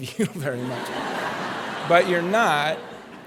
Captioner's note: laughter